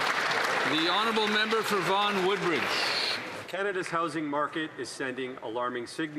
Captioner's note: applause